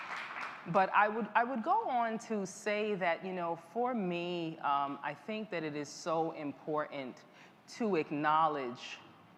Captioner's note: applause